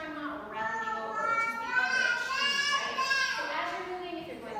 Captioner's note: babbling loudly